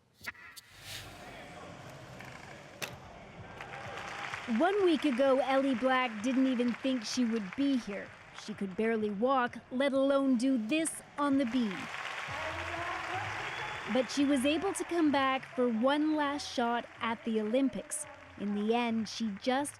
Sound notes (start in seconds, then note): 5.5 applause; 14.5 applause